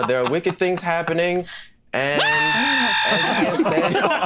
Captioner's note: screams